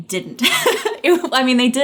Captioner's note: laughing